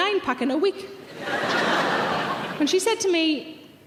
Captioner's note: audience laughs